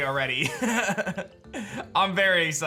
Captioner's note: laughs